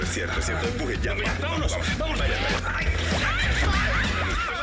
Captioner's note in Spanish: Hablan al unísono